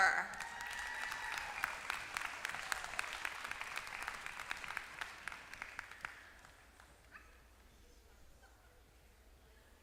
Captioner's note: applause